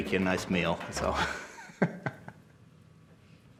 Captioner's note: chuckling